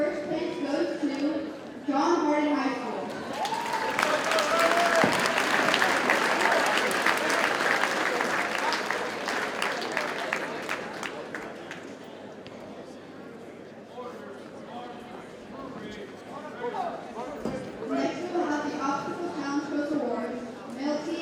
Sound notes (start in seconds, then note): 3.1 audience cheers and applauds